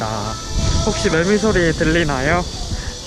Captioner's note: cicada